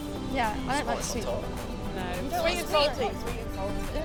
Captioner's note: chatter continues